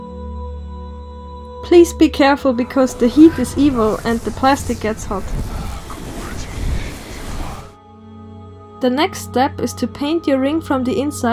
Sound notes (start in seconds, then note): 7.4 Sauron's whispers